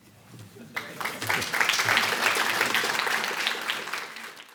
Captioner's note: clapping